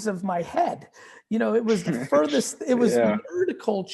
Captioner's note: giggling